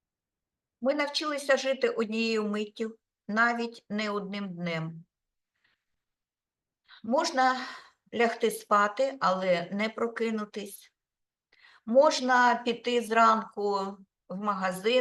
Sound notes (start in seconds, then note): 0.9 speaking Ukrainian